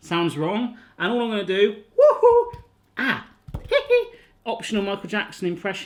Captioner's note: winces